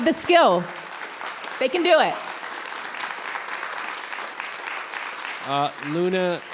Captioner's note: audience applauds